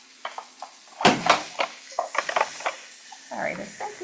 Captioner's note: mandoline thumps